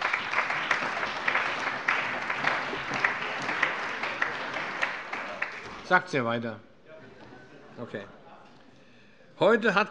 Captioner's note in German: Allgemeiner Beifall